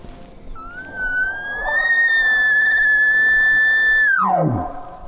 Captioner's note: caller bugling